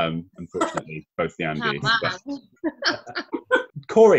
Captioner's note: laughter